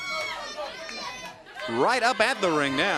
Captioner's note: crowd cheering